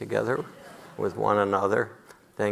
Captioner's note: audience laughiing